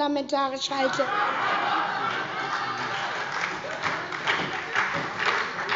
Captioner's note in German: Große Heiterkeit und Beifall